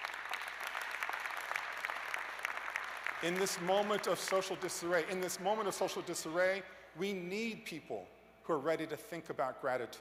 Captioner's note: cheers and applause